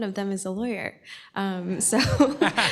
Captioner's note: laughter